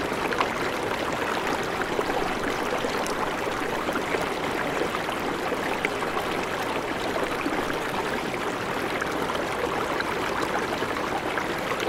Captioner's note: the sound of water bubbling loudly